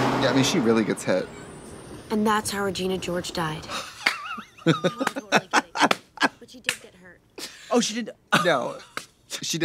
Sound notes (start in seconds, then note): 5.5 Katya cackles and slaps